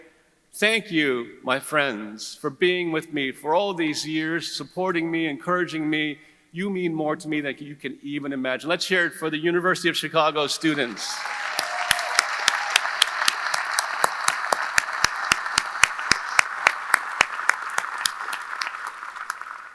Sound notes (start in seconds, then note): 10.6 audience applauding; 10.6 audience cheering